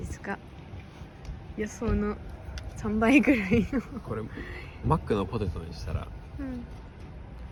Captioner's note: laughs